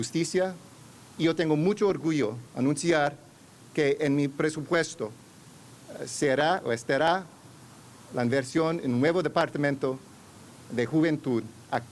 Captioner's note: speaking spanish